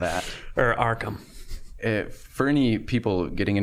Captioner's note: sniggering